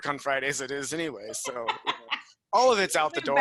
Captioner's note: laughing